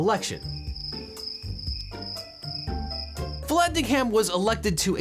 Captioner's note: crickets chirping